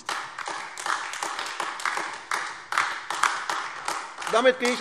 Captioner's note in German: Beifall AfD